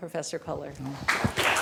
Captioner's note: applause